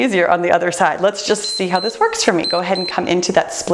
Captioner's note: timer beeps